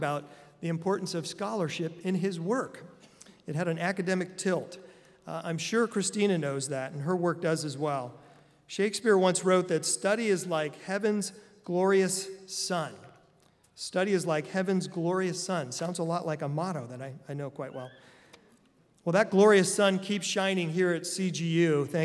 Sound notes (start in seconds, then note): none